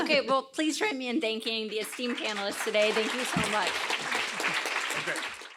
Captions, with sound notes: OK. Well, please join me in thanking the esteemed panelists today. Thank you so much. [APPLAUSE]